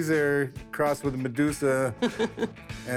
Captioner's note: chuckles